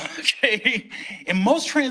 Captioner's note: laughing